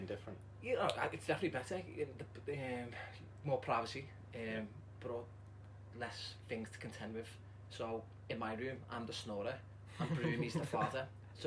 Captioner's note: laughter